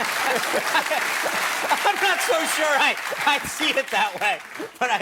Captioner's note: laughter; cheers and applause